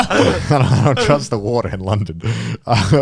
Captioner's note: all laughing